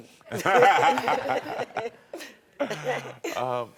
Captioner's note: all laughing